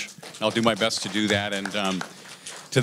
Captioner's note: applause